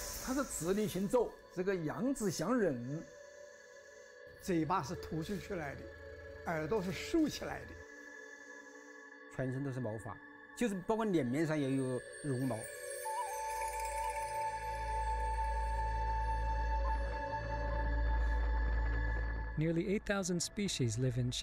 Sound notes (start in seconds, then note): 0.2 in foreign language; 9.5 in foreign language; 13.3 gentle flute music